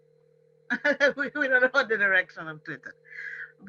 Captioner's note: laughs